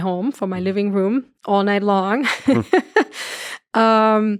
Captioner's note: laughs